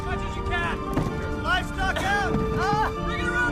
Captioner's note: coughing